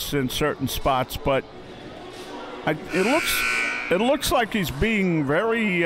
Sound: buzzer sounding

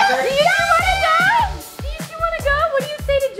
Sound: kids screaming

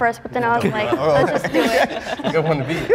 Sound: group laughing

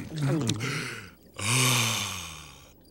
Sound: sighing

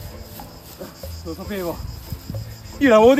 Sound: snorts

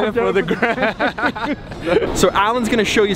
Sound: both laugh

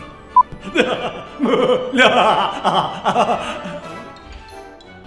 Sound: maniacal laughter

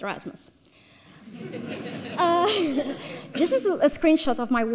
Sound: audience laughs

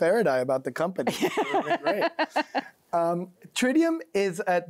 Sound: laughs

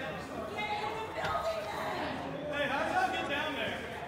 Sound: crowd yelling

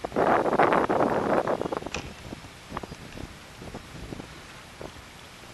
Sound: sound of wind blowing across the microphone

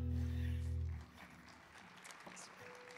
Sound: audience clapping

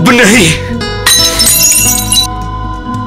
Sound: bottle smashed

